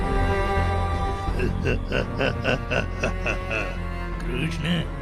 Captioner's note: laughs